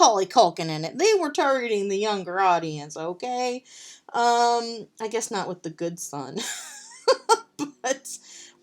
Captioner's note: laughs